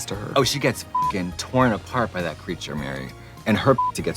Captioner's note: beeping